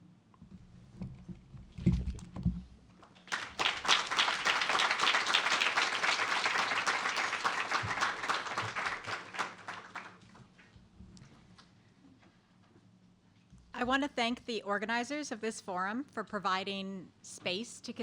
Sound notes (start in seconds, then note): 5.0 applause